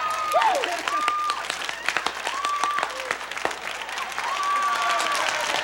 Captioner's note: audience applause and screams